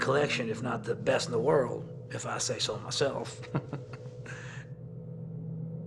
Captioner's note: laughs